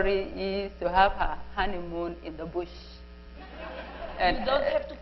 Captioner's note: laughter